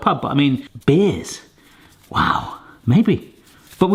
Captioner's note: none